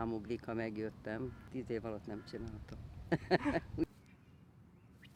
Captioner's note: laughter